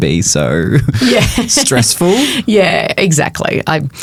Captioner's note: chuckles